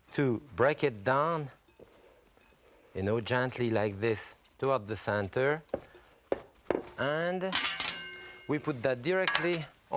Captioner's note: none